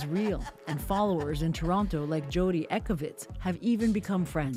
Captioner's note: laughter